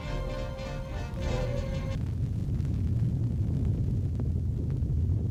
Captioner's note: volcano rumbling